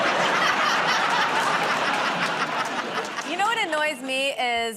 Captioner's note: laughter